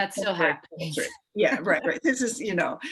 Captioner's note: laughs